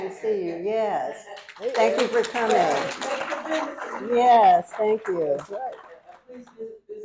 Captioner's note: applause